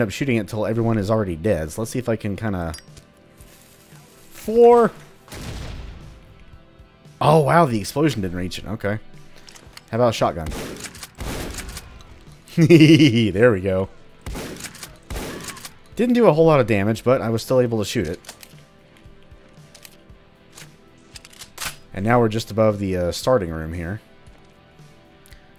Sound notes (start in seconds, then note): 5.3 kaboom; 11.2 shotgun blasting, extinguisher explodes; 12.5 evil chuckling